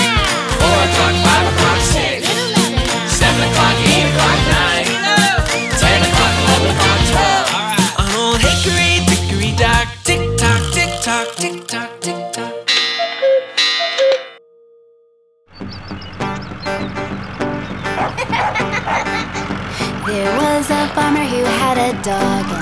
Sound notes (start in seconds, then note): 12.7 cuckoo bird clucks; 15.6 playful funky music; 17.8 puppy giggles